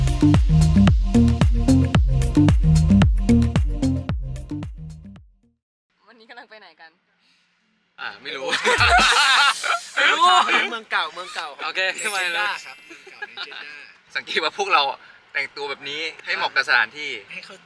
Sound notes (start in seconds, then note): 8.4 laugh